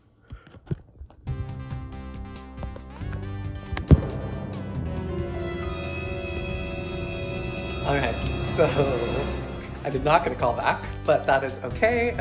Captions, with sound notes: (soft electronic music continues) (dramatic ringing) All right, so I did not get a call back, but that is okay.